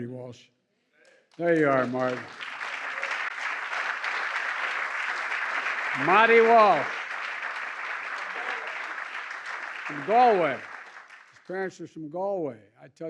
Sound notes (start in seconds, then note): 2.7 applause